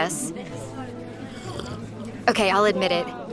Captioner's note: slurps coffee